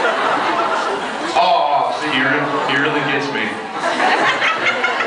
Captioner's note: laughs; awwws; laughs